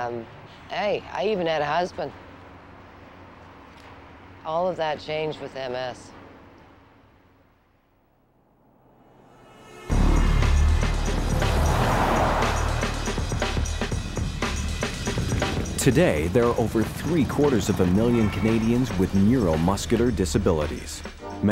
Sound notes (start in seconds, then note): 9.3 bustling city traffic, horns honking; 9.9 upbeat music plays in background